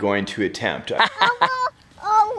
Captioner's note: laughing